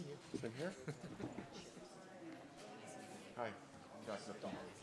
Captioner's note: crowd chattering